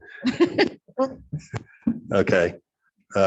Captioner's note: laughing